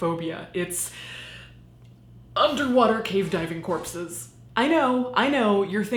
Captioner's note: gasping